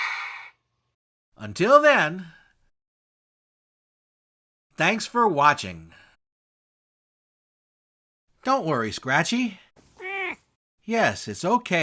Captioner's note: meow!